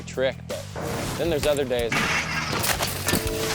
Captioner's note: metal clangs; bike thuds; biker thuds